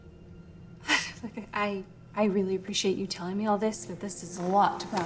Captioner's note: laughs